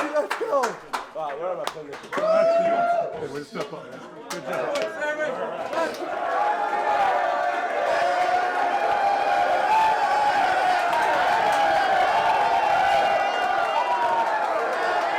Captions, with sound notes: >> LET'S GO, BABY, LET'S GO! >> WAY TO STEP UP! GOOD JOB. [CHEERING]